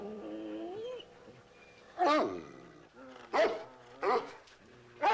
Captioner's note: barking